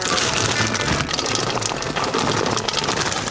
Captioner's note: pouring blueberries